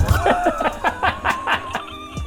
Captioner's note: giggles like late-30's teenagers